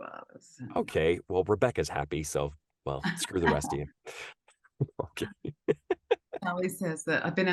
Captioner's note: laughs